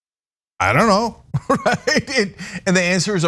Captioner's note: laugh